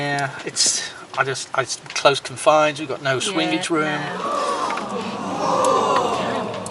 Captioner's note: sound of crowd gasping